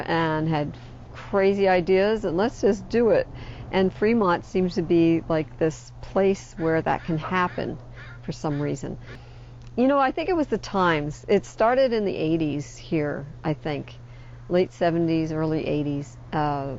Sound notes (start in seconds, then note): none